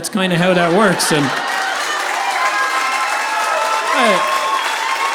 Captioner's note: audience applauding